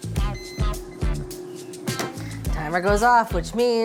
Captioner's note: air fryer beeping